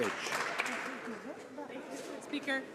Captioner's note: some Applause